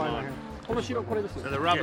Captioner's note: speaking japanese